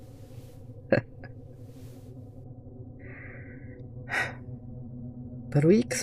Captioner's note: dry laugh, then a sigh